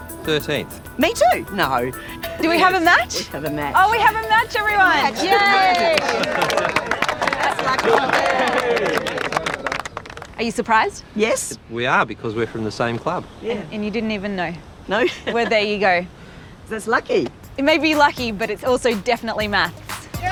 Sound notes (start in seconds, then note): 5.1 applause; 15.0 laughs